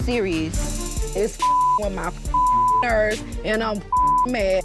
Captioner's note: beeping; beeping